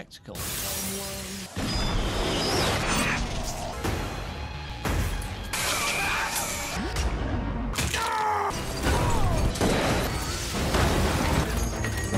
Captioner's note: crashing, splatter, punching, explosions, etc